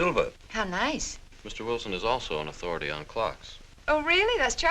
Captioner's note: none